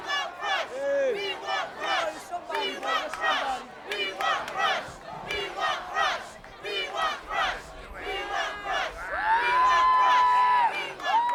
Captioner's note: applause